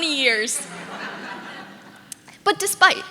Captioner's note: audience laughing